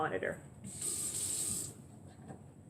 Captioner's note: running water